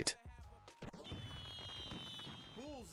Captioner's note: fireworks popping